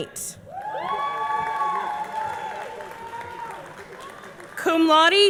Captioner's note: audience cheering; audience clapping